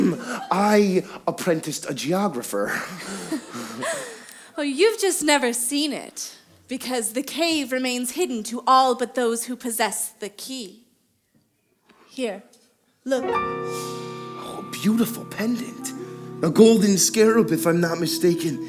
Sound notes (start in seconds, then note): 3.0 Sherrezade laughing